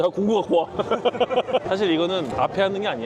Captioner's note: hahahahahahaha